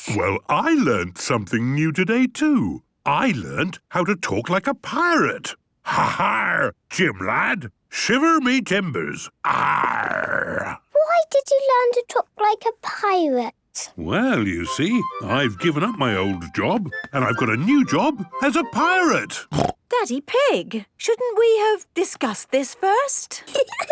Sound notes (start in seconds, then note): 5.9 menacing voice; 9.4 he growls